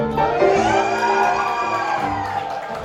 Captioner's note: crowd cheering